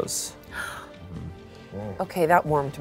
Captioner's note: gasps